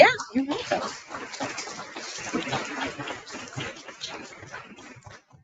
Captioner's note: audience applauding